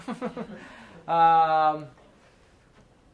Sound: laughs

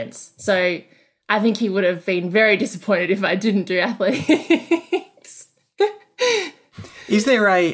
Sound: laughing

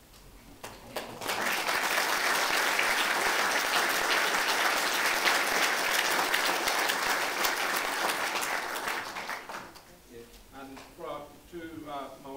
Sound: applause

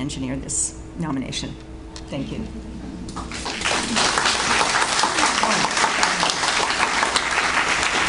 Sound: audience Applauds

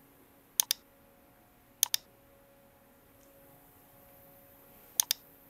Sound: mouse clicking continues

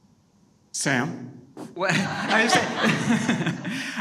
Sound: all laughing

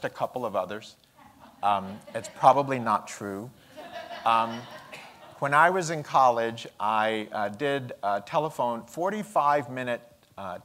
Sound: laughter

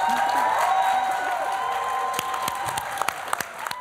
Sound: applause

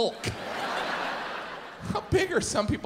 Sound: audience laughs

